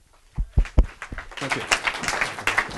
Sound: audience applause

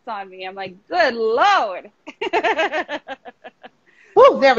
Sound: laughing

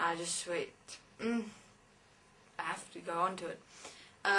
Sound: hum

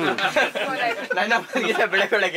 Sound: laughing

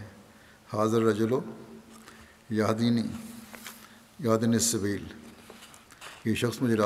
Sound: Arabic

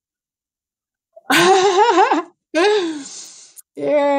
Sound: laughs

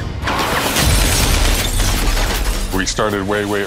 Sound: gun shots and glass breaking

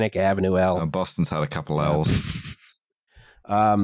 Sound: laughter

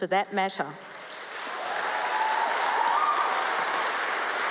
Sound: cheering, applause

